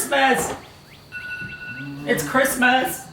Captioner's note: alarm beeps